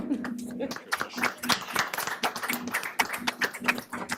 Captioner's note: applause